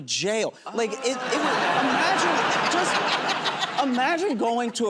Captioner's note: laughter